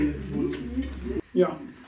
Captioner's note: laughter